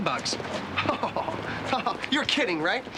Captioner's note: chuckling